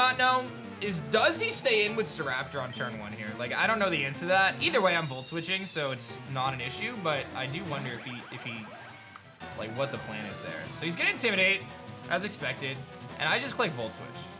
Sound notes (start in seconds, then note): none